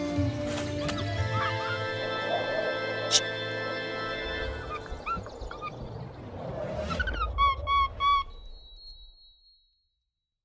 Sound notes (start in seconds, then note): 2.1 monkey whooshing; 5.3 monkey squeaking